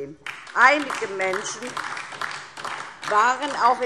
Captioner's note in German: Beifall DIE LINKE